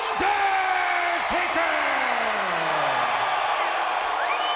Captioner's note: crowd cheers